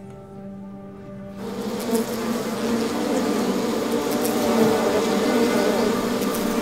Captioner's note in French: bourdonnement